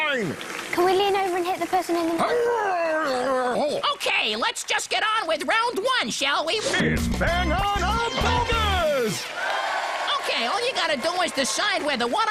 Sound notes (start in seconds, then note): 2.3 zeppo interjects by grunting; 9.3 audience cheers